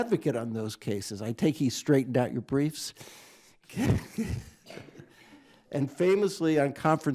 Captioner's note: chuckles